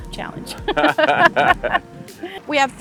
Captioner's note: both laugh